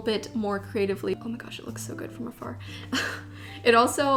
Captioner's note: chuckles